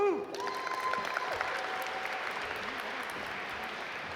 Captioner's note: audience applaud